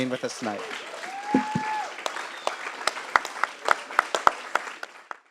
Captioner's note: applause